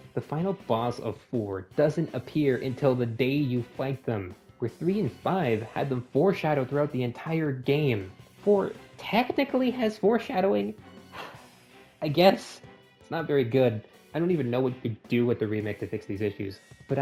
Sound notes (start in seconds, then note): 11.1 sigh